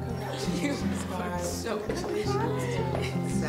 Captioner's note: attendees laughing; speaking faintly